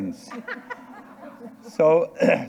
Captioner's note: audience and participants laughing